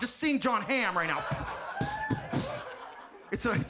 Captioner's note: audience laughs